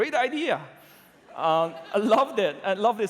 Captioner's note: laughter